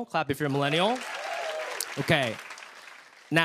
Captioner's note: cheers and applause